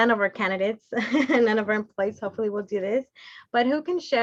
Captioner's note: laughter